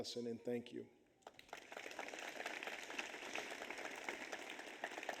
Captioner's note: audience applauds